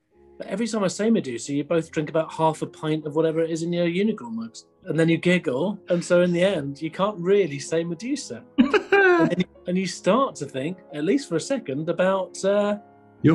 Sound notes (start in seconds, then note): 8.6 laughing